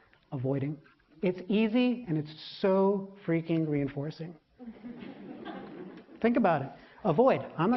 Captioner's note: laughter; 笑聲